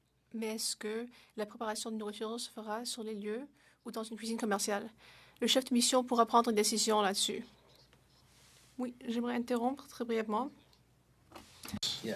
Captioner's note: speaking French